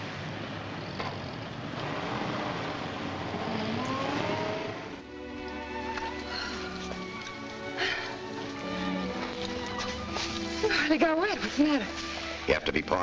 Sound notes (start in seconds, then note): 3.3 car rumbling; 5.5 gentle music